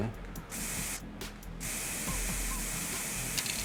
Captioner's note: paint spraying